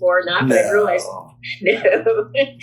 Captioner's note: laughs